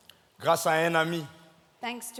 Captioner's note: speaking in French